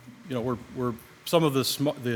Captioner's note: none